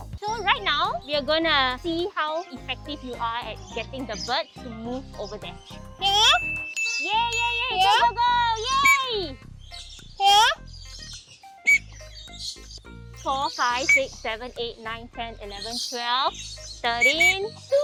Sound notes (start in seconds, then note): 11.6 blows whistle